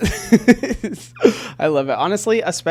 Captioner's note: laughing